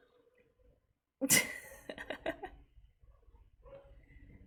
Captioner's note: laughs